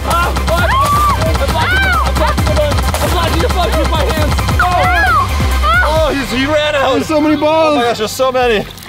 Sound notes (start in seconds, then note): 4.7 screaming